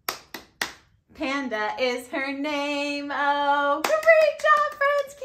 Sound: claps

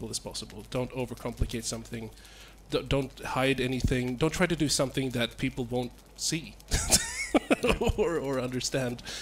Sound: laughs

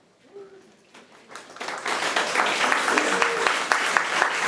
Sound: all clapping

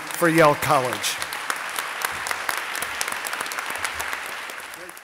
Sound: audience applauding

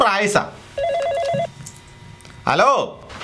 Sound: phone rings

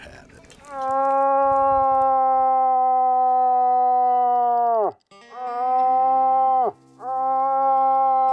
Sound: bellows

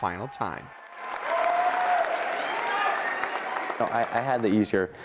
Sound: crowd cheering

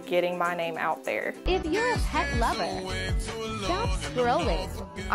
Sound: voiceover

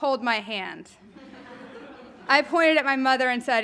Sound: audience laughing

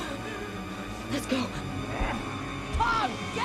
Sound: grunting

